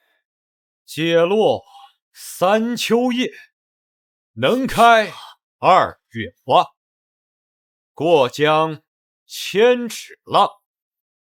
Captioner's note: reciting poetry